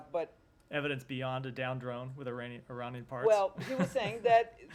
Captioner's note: laughter